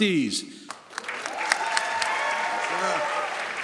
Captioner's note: audience applauds